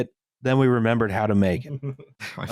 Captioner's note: chuckles softly